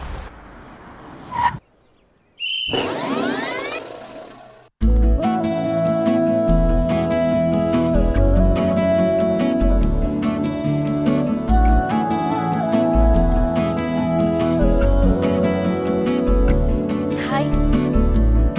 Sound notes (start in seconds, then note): 2.4 whistle blows; 2.4 brakes squeal